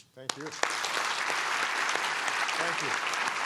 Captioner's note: applause